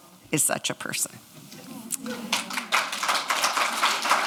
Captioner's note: audience clapping